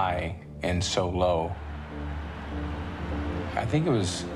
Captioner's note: crowd cheering